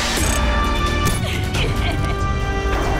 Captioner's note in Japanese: 笑い声